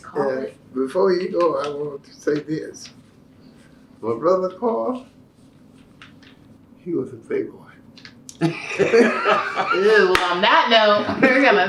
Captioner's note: laughter